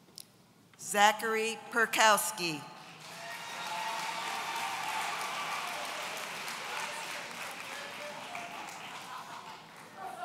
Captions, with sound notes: Zachary Perkowski (audience cheering)